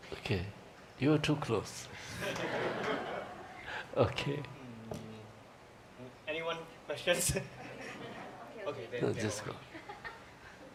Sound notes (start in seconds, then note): 2.1 laughter